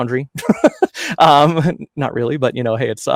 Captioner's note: laughs